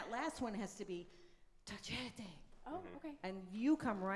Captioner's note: speaks in foreign language